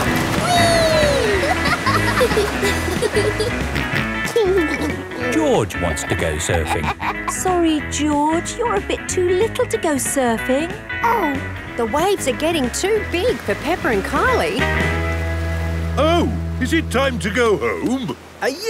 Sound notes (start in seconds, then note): 0.5 laughing; 4.0 snorts and giggles